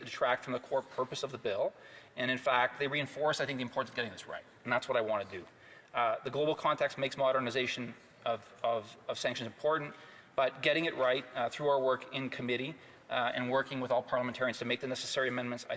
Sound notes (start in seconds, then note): none